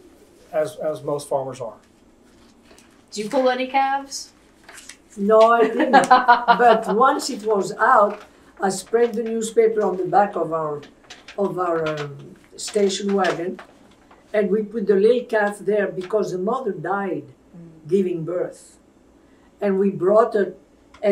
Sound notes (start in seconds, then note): 5.6 laughter